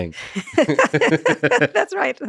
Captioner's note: laughing